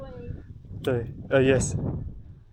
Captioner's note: Mandarin